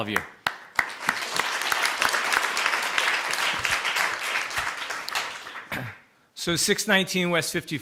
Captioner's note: applause